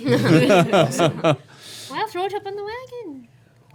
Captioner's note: laughing